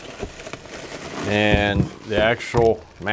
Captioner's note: paper and plastic rustling